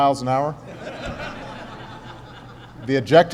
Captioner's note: laughter